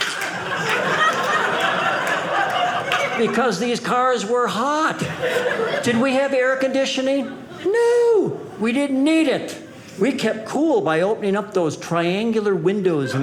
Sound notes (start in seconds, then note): 1.6 audience laughing